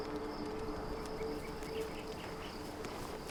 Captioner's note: crickets chirping